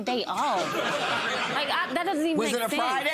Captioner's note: audience laughing